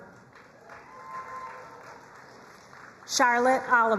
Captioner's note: crowd cheering and applauding